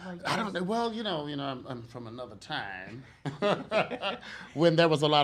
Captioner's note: laughs